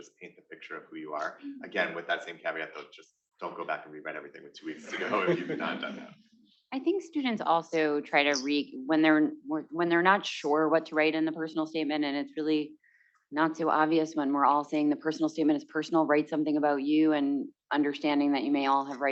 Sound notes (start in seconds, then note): 4.7 students chuckling